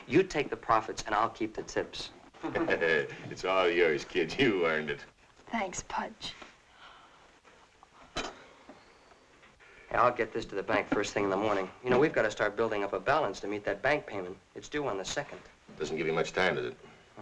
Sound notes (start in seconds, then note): 2.3 chuckling; 7.0 yawning softly